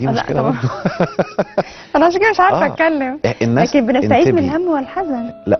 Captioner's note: laughs!